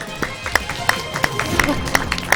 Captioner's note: applause